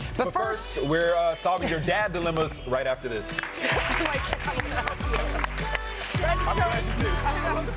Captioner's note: cheers and applause